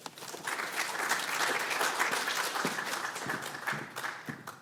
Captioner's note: audience applauding